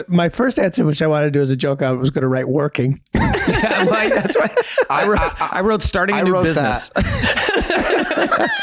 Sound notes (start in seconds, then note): 3.1 all laugh